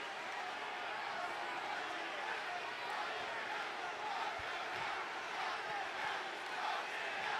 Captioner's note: applause